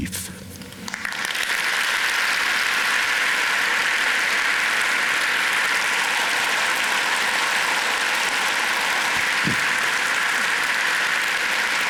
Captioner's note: loud applause